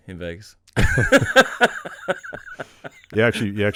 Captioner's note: laughing